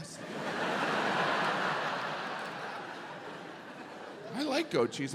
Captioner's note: audience laughs